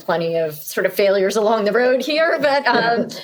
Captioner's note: laughing